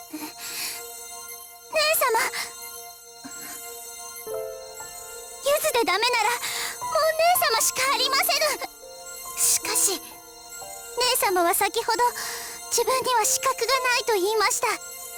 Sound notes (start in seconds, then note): 3.6 pensive breath